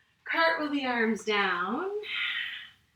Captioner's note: exhales